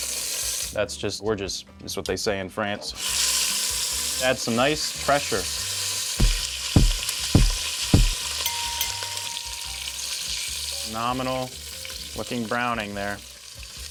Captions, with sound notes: That's just, we're just, it's what they say in France. (chicken sizzling) Add some nice pressure. (knocks followed by bell dinging) Phenomenal, looking brown in there.